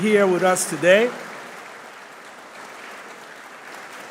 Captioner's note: applause